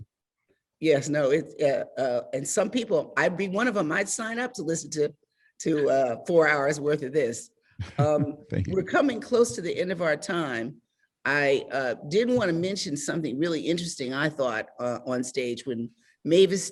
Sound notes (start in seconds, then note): 7.8 chuckles